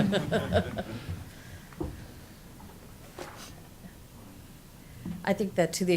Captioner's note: laughing